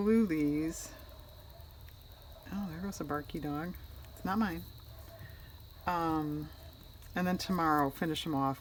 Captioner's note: dog barking outside